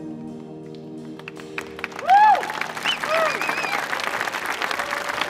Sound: audience applauding

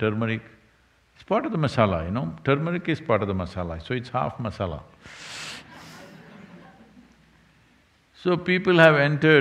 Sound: laughter

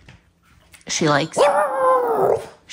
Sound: howling

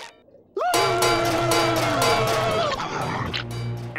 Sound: screeching, banging

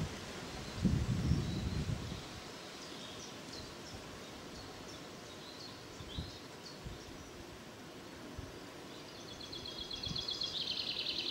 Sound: wind gently blowing

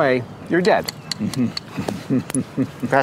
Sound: chuckles

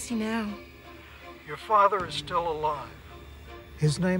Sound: on phone

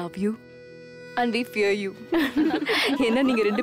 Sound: giggling

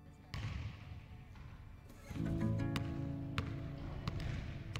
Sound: basketball bouncing

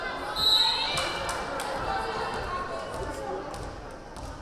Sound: whistle blaring

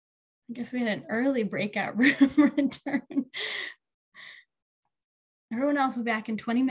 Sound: chuckles

